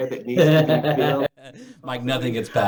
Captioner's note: laughing